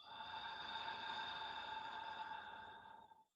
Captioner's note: exhale